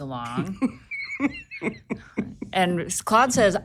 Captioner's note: laughing